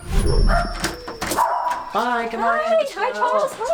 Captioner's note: Bailey barking